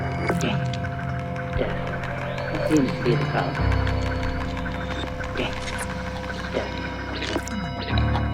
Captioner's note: squeaking